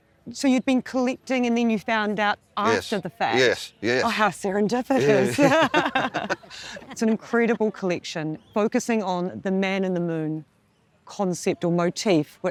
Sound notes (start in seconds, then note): 5.0 both laugh